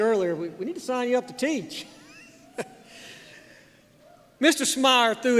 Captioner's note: chuckles